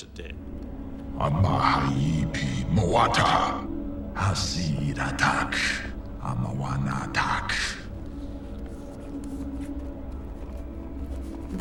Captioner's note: speaking ancient egyptian